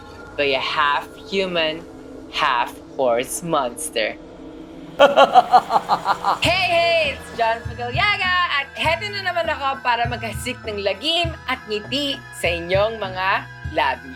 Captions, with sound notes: by a half-human and half-horse monster. [SINISTER LAUGH] Hey! It's John Fedellaga. I'm back to cause terror and put a smile on your faces.